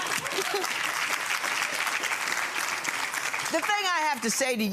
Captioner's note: audience laughing; audience applauding